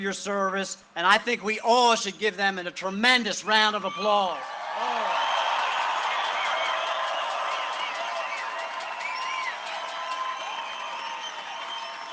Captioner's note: cheering and applause